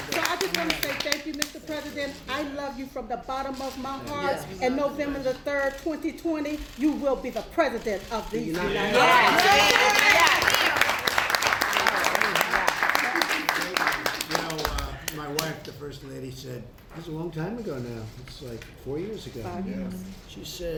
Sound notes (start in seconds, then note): 0.0 laughter and applause; 9.0 applause